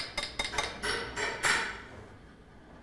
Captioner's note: hammering